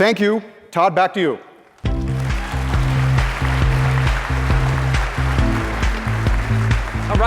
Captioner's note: applause